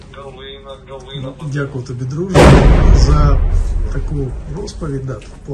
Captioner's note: sound of explosion